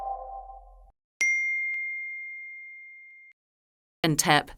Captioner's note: text tone dinging; text tone beeping